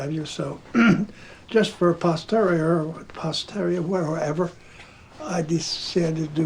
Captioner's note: clears throat